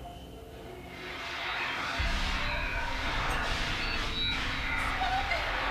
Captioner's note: muffled 1920's music; soft eerie music; victim sobbing